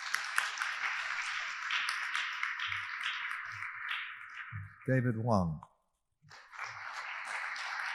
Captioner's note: audience applauding; audience applauding